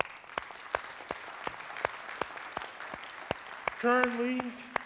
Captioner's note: applause